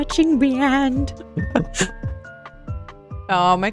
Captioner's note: laughs